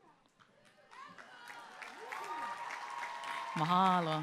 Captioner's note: applause